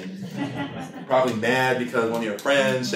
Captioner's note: laughter